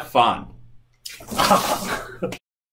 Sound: water Splashes

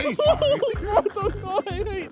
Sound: laughs

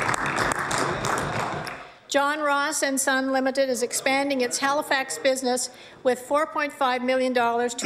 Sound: applause

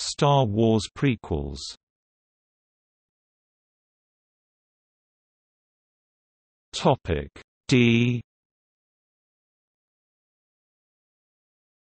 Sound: in German

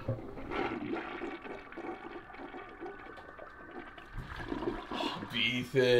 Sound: toilet flushes

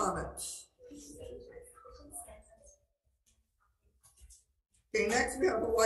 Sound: speaker speaking faintly

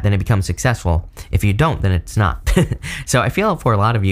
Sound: chuckles

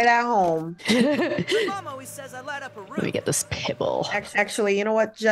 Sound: laugh

